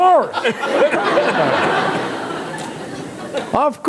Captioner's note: laughter